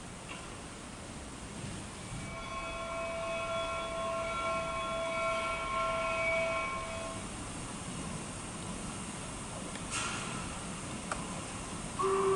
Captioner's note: train noises